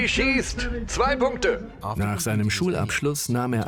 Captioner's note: voiceover